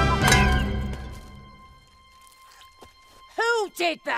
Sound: hollow clang

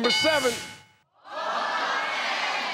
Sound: dinging; crowd

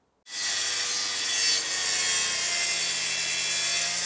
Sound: saw brattling

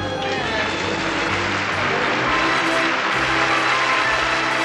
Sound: audience claps and cheers

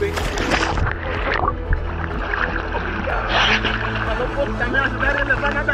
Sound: water splashing and bubbling; locals speaking Portuguese

